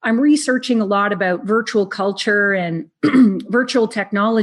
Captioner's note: clears throat